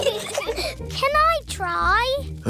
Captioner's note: peppa and george giggle